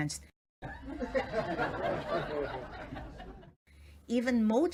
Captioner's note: people laughing